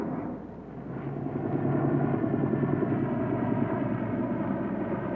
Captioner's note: helicopter humming